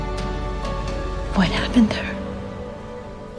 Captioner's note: voiceover